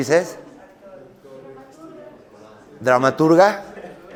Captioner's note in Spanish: voz del público